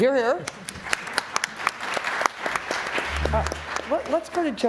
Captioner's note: applause